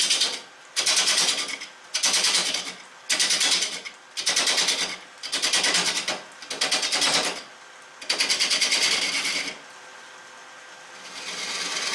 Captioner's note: noise of woodturning lathe and woodturning